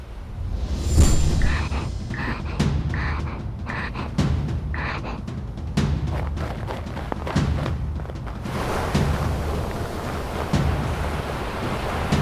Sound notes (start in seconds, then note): 0.6 tense drumming music; 1.4 man in mask panting